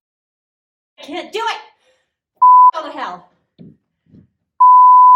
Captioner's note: beep; beep